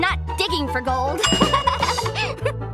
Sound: laughing

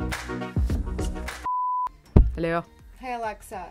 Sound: beep

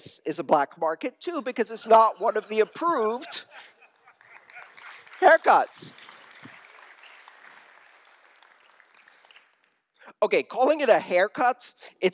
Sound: laughter

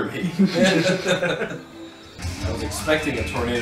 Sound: laugh

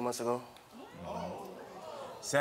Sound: audience ohs

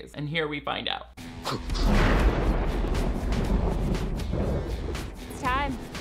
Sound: thunderstorm

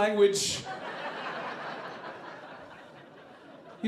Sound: audience laughing

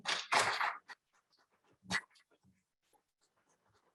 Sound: applause

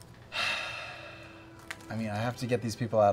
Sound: sighs

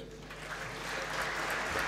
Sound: applause

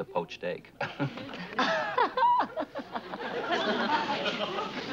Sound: laughing

